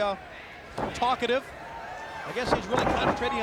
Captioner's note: body thudding; footsteps plodding